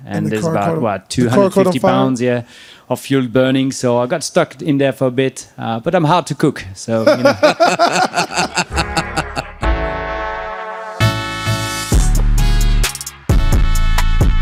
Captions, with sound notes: - And the car caught on- - And there's, what, 250 pounds? - The car caught on fire? - Yeah, Of fuel burning. So I got stuck in there for a bit, but I'm hard to cook, so. (all laughing) (mellow hip hop music)